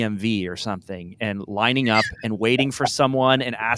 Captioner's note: laughs